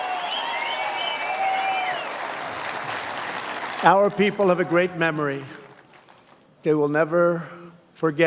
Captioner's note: cheers and applause